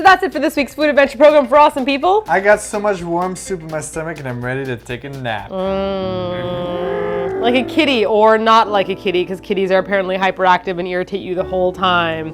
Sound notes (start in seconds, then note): 6.2 purrs